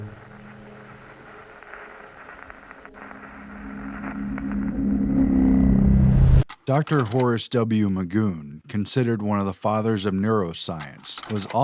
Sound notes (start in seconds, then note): 3.9 static, riser